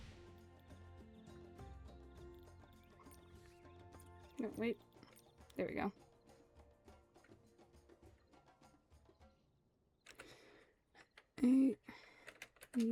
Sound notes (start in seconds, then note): 8.1 keyboard clicking